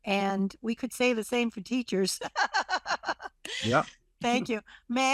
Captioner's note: laughs